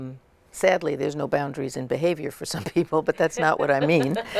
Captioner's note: laughter